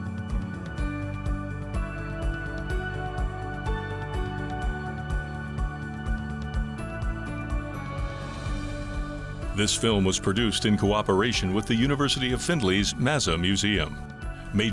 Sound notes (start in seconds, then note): 0.0 cheerful instrumental music; 9.7 voiceover